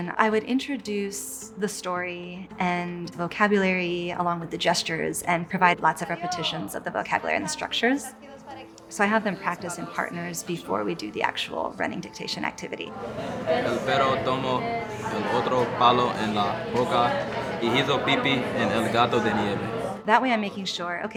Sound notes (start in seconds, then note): 12.8 students chattering; 13.9 student speaking in Spanish